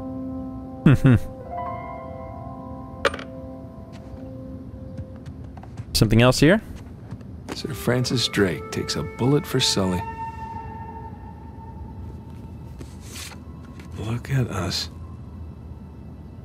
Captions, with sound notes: [chuckles] Something else here.